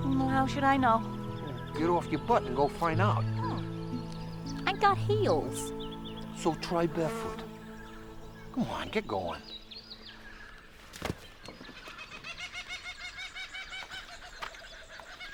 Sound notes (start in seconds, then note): 10.2 bird chirping